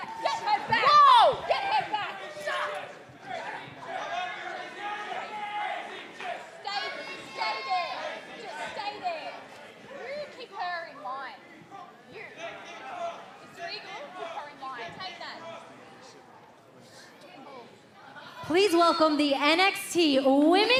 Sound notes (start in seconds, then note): 6.7 fans chanting